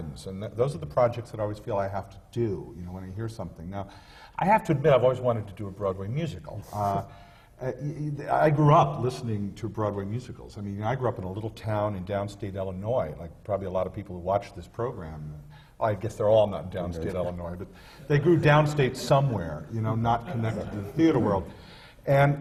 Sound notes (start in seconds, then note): 20.2 laughter